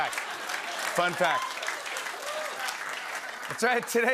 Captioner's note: applause